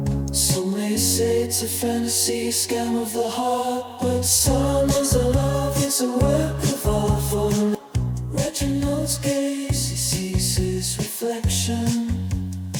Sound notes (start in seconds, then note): none